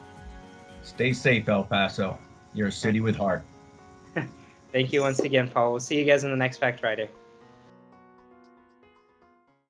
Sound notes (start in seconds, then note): 4.8 laughs; 8.0 light music